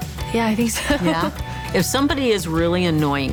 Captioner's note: laughs